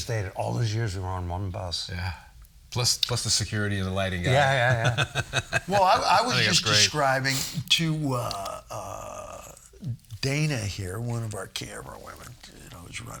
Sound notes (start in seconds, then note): 4.3 chuckling